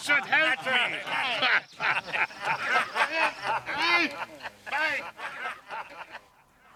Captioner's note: men laughing